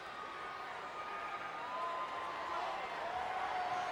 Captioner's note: crowd cheering